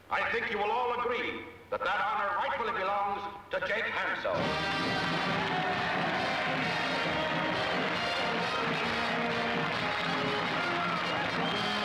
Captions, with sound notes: I think you will all agree that that honor rightfully belongs to Jake Hanso. [band music] [all cheering] [applause]